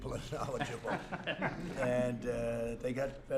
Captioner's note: laughter